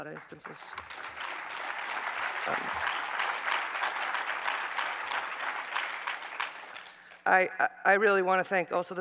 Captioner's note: applause